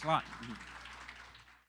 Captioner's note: applause